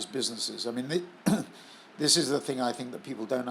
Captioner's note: cough